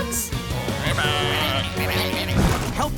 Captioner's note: croaking